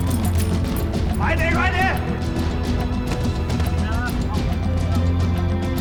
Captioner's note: henchman speaking in foreign language; suspenseful music continues